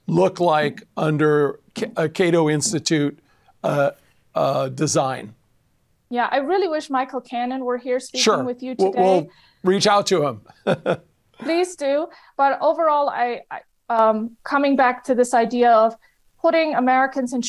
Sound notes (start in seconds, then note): 10.5 laughs